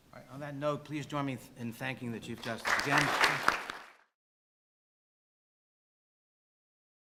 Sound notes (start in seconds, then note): 2.4 audience applauding